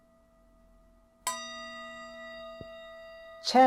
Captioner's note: initiation Meditation Bell Sounds: 3 of 3